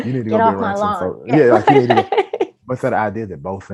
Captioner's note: laughs